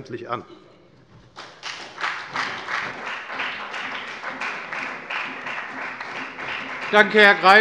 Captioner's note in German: Beifall bei der FDP und bei Abgeordneten der SPD